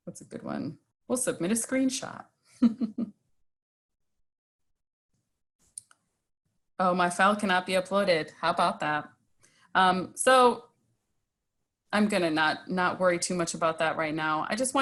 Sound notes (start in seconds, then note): 2.6 snickers